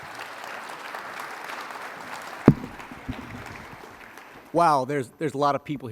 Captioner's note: applause